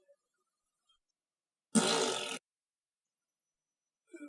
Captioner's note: fart noise